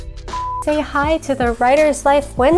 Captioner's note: image whooshes; screen beeps